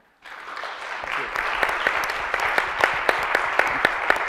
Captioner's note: audience applauds